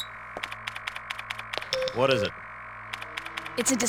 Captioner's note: radio beeping